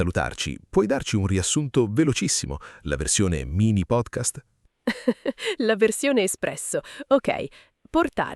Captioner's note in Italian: risate